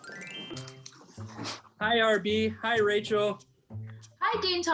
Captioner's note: telephone ringing